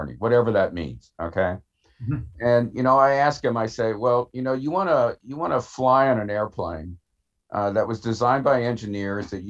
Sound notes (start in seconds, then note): 1.7 chuckles